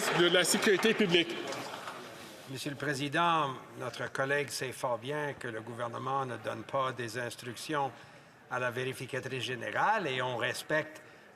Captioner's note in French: applaudissements